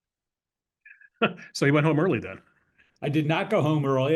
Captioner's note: laugh